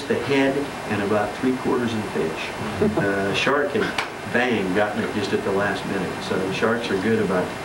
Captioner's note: claps hands